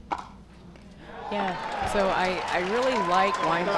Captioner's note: crowd cheers